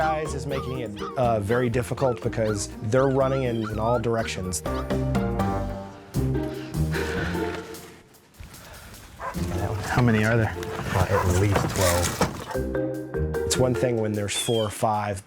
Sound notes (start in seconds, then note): 6.3 dog barking; 6.3 upbeat music